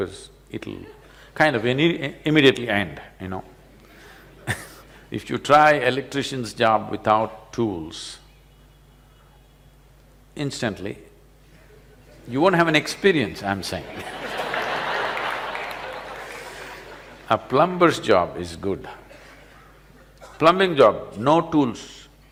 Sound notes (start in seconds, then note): 13.8 laughter